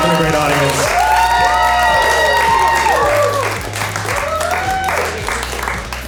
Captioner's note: audience clapping and cheering